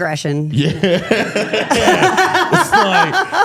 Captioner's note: laughs